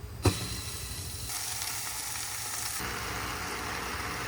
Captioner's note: sizzling noises